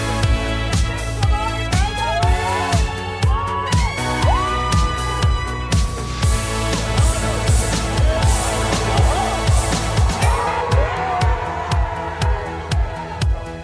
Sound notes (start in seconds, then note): 0.0 cheering; 6.0 dramatic music; 8.7 cheering